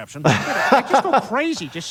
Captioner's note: laughing